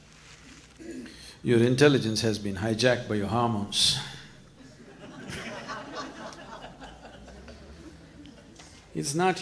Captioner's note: laughter